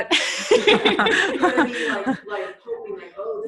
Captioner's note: laughing